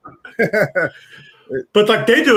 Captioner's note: laughing